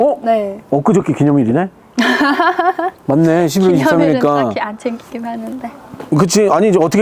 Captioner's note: laughing